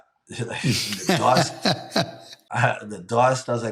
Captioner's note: laughing